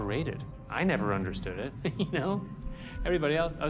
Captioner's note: chuckles